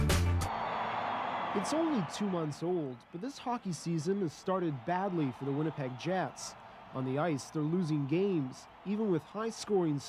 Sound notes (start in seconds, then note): 0.9 cheering